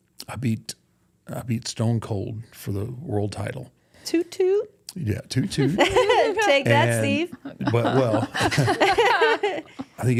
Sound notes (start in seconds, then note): 7.2 laughs; 8.6 people laughing